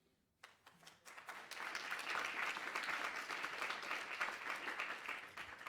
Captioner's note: applause